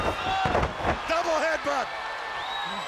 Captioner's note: crowd cheering